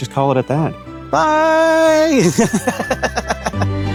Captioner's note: laughs